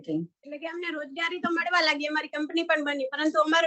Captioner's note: non-english speech